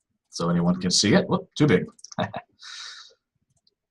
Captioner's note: laughs